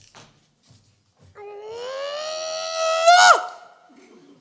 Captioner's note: grunt of frustration